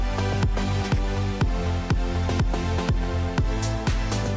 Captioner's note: scribbling